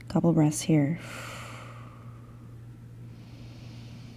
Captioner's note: breathing